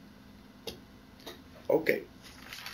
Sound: pause

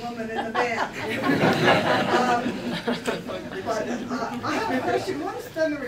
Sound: laughter

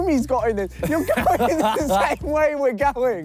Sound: both laughing

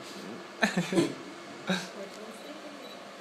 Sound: they laugh

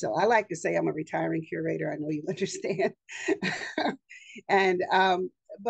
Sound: chuckles

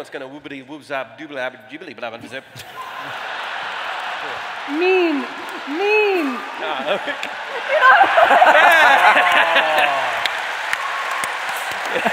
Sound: laughter

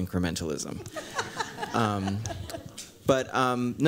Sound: laughter

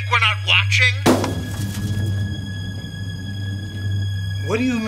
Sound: object thuds

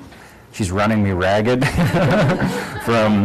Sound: laughter

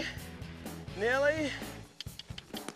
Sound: mouth clicking

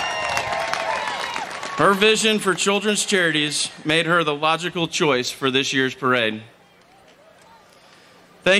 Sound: applause

